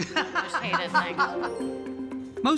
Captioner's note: laughing